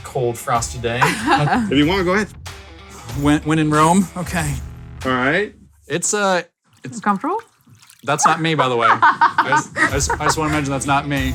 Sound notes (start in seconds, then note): 1.0 laughs; 6.6 water sloshing; 8.2 laughs